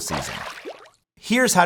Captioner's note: water splashes